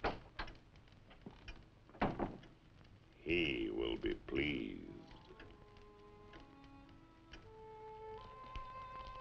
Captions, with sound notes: (door thudding) - He will be pleased. (slow eerie music)